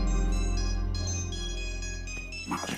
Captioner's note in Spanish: Suena el celular